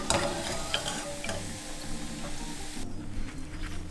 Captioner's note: pot scraping